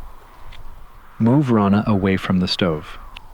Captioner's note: radio